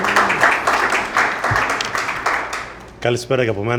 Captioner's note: applause